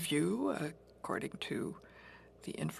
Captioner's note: speaking French